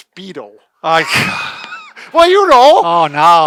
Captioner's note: laughs